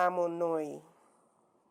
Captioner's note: speaking in a foreign language